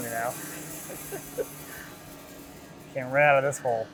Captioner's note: laughs